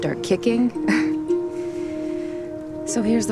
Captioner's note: chuckles